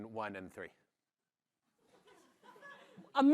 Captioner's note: laughter